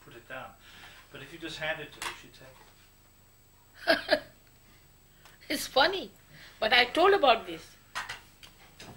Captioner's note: shri mataji laughs